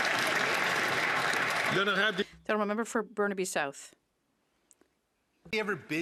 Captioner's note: some Applause